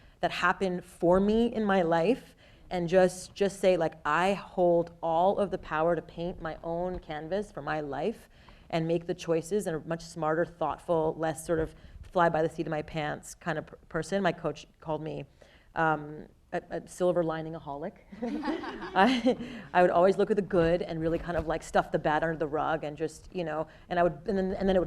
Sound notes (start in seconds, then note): 18.2 people laughing